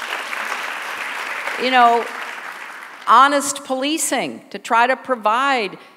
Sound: applause

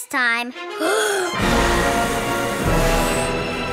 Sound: blowing

